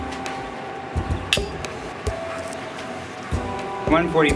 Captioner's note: glasses clinking